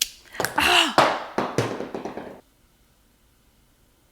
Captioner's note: groans